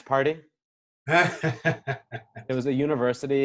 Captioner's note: laughing